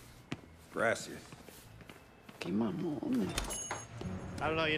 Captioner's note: speaking foreign language